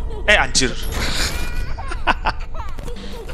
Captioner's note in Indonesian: ketawa